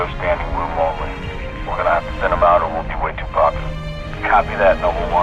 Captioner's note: radio